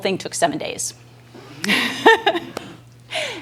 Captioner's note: laughing